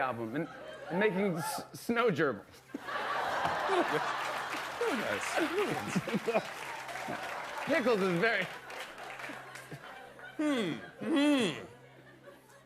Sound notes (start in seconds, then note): 2.7 laughter